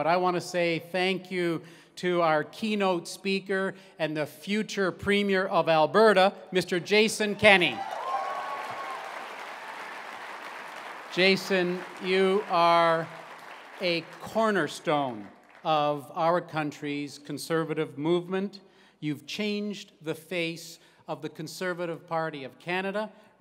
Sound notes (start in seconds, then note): 7.4 cheering